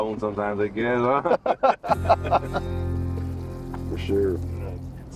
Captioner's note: duo laughs